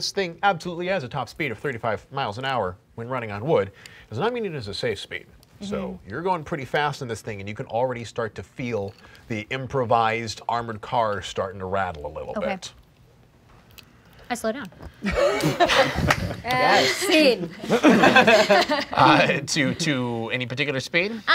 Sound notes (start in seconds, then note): 15.0 laughing